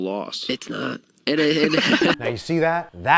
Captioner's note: laughing